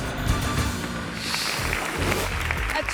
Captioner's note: triumphant music; graphics whooshing; hands clapping